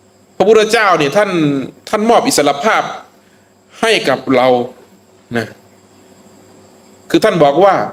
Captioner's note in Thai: เสียงสูดหายใจ